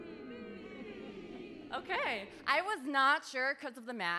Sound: audience moaning; audience chanting

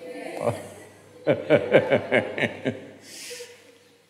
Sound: laughs

